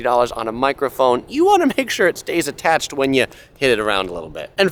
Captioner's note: giggles